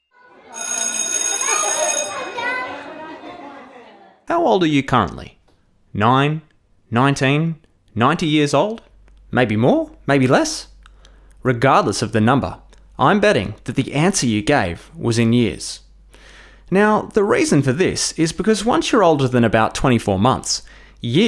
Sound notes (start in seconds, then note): 0.0 bell ringing over children talking